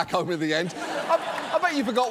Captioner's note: audience laughs